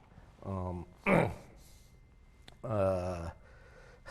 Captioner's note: cough